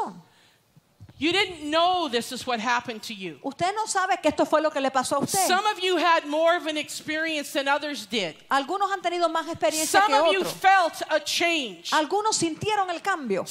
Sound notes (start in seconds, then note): 4.9 Spanish; 9.1 Spanish; 12.5 Spanish